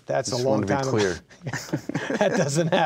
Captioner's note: laughing